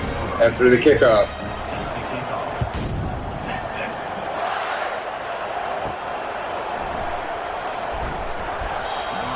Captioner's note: crowd Noises